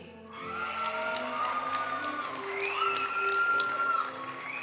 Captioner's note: audience cheering and applauding; graduation music